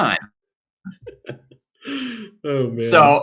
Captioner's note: laughing